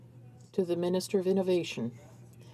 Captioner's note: speaking in french